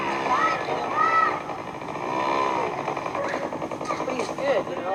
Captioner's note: children yelling